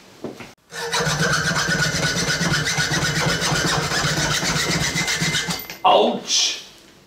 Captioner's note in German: lautes Sägen